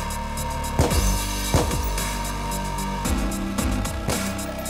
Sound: gun firing

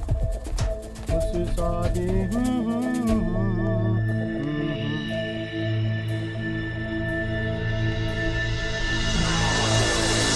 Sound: humming a famous Bollyhood song

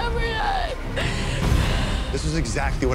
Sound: sobs

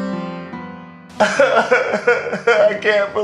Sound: crying

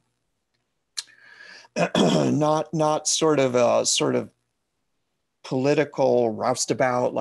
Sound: cough

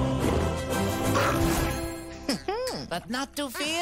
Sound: chuckles

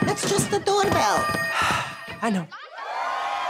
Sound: sighing

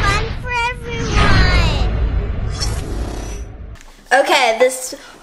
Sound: strawberry whooshes

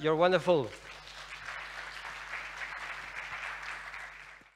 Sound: applause

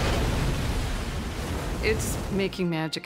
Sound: waves crashing; intense dramatic music

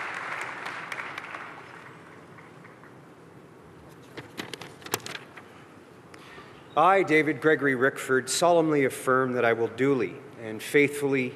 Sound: applause

